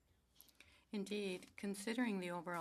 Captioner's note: speaking french